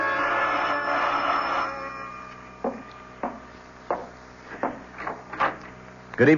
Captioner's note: knocking